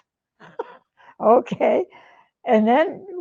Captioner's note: laughs